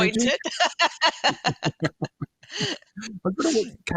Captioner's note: laughter